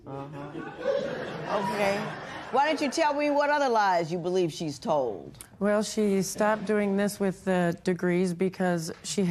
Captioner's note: laughter